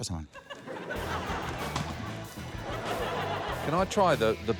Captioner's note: laughter